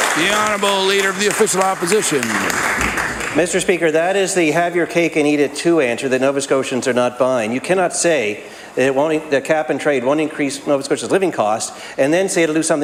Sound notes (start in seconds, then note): 4.4 applause